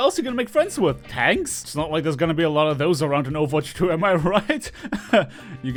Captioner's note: nervous laughter